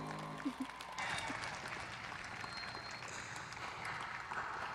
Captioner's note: applause